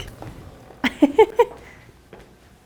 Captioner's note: small Giggle